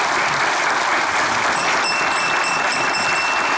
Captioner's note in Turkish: Zil sesi